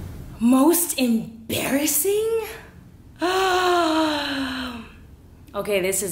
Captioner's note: gasps loudly